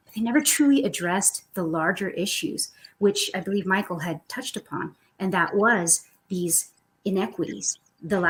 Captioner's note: none